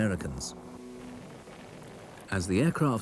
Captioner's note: cannons blast